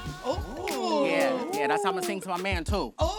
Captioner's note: collective oohing